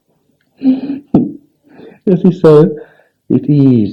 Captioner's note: laughs